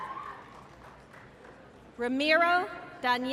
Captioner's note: applause